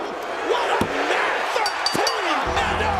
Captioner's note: bell dinging; sinister music